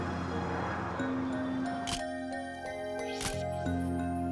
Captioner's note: camera shutter click